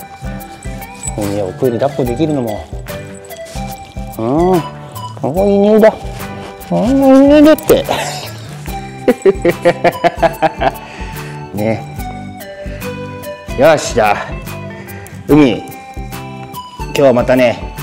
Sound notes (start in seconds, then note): 7.7 laughs